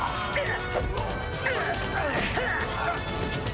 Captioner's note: punch